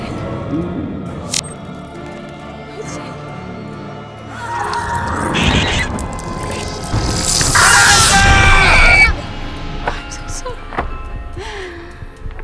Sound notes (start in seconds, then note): 0.2 ghostly whispering; 4.8 screaming